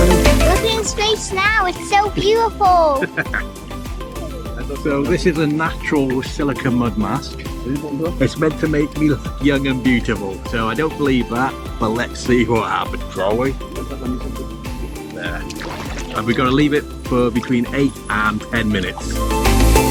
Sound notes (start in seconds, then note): 2.7 laughing